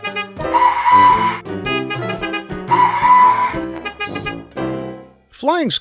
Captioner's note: whistle Whistle - Beep Beep